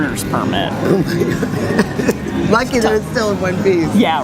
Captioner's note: laughs